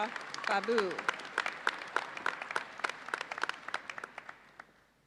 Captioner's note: audience applauds